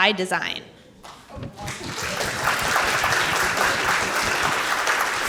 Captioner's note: audience clapping